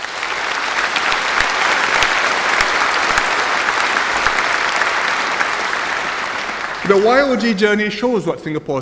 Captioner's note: applause